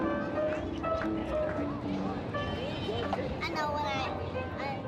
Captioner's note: outdoor sounds and conversations